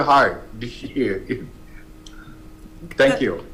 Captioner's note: laughing